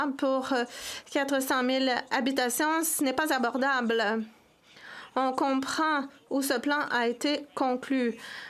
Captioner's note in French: voix de l'interprète